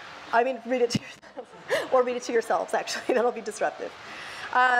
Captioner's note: laughs